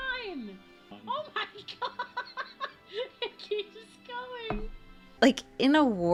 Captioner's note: laughs